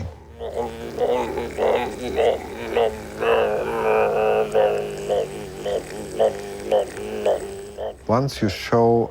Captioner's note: humming